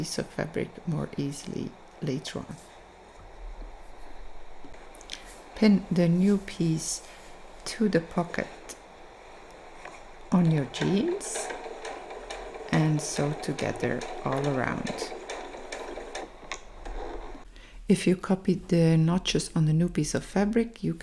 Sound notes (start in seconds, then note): 15.6 machine whirring